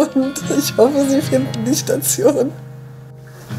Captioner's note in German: lachend